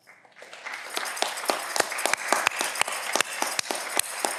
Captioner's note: audience clapping